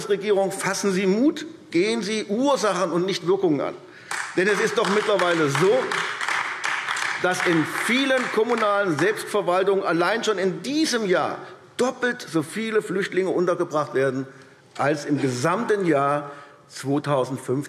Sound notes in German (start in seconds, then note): 4.0 Beifall AfD